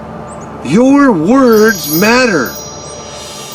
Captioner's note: chimes ringing